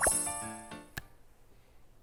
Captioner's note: snap!!!